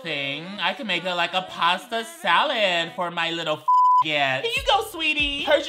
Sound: beep

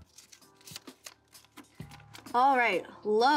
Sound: paper crinkling

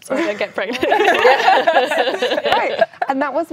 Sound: laughing

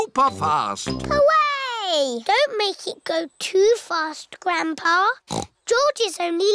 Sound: snorts

